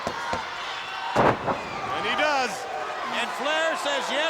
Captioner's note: bodies thudding